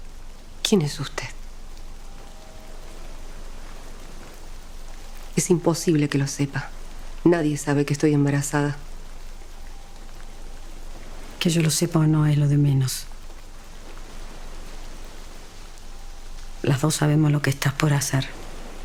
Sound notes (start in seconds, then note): 2.2 waves crashing